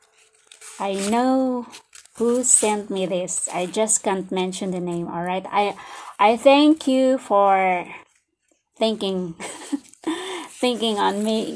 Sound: laughs

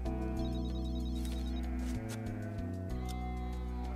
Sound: cell phone rings

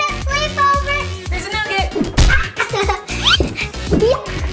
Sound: yells and laughs

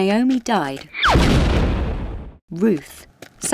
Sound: boulder crashing

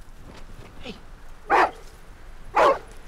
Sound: barking

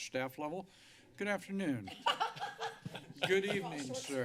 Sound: laughter

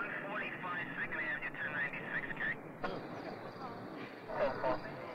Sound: radio responding

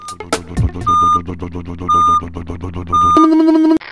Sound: back up beeper

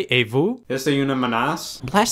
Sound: foreign language

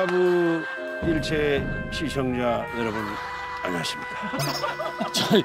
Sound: sounding serious

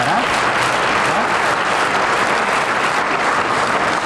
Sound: audience applauding

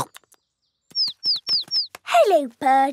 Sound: chirping

